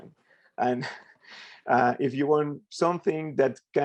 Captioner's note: chuckles